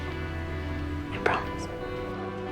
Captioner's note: voiceover